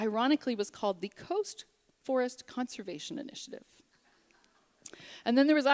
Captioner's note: laughter